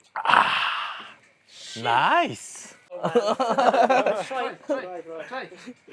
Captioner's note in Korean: 웃음